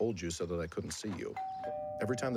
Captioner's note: doorbell rings